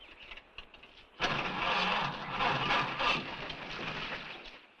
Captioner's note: engine cranks